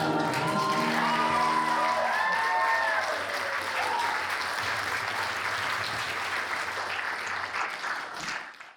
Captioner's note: applause